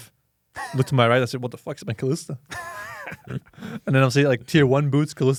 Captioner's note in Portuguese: risos; risos